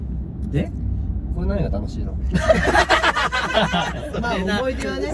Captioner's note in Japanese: 爆笑